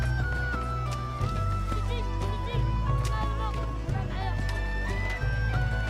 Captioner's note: speaking in arabic